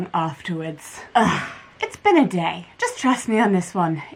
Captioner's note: exasperated sigh